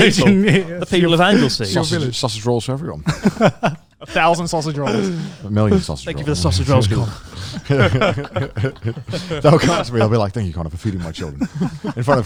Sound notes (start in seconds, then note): 3.0 laughs; 7.6 all laughing